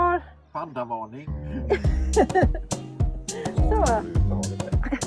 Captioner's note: laugther